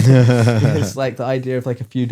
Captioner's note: laughing; laughs